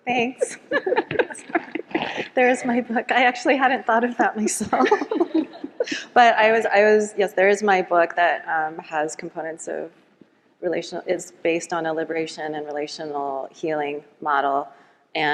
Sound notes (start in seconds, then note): 0.4 all laughing; 4.8 all laughs